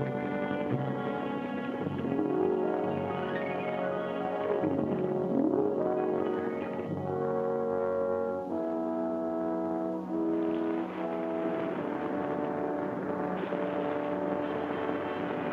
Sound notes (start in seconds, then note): 2.6 bright instrumental music; 10.8 water laps